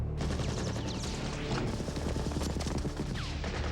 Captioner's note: guns firing